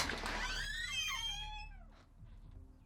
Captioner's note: door opens